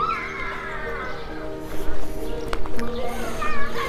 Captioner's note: scream